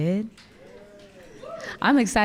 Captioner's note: audience cheering